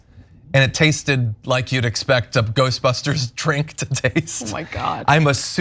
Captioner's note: laugh